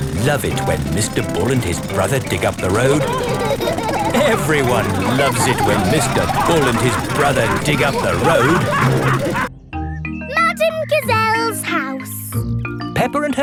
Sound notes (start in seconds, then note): 4.1 laughing; 9.1 all laughing